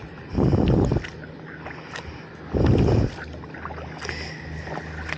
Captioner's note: wind + paddling